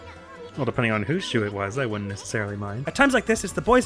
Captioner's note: cataclysmic sub voice